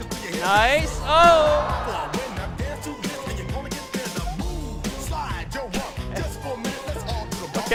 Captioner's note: audience gasping